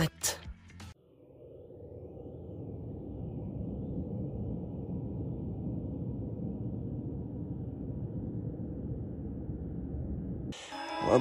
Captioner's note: wind blowing